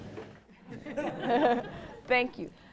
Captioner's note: all laughing